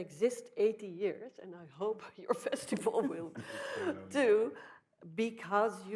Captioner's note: laughing